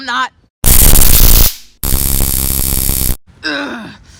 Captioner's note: taser sounds